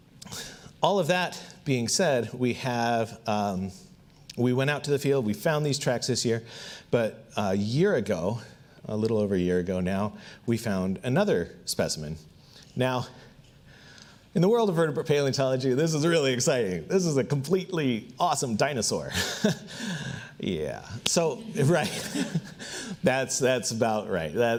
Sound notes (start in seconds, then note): 19.1 laughs; 21.4 audience laughs